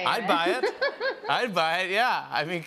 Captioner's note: laughter